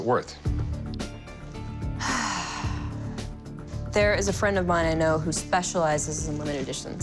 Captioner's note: sighs